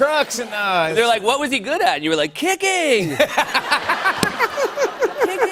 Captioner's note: laughter